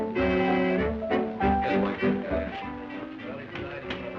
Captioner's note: indistinct chatter